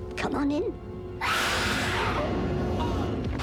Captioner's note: screams